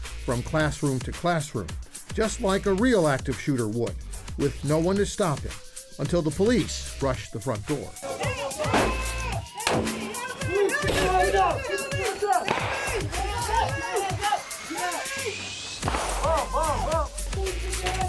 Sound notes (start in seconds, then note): 8.3 police yelling; 12.4 gun shot